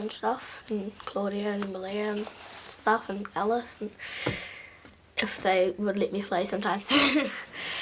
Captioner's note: laughs